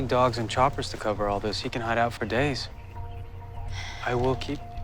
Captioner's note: sighs